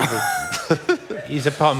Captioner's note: laughter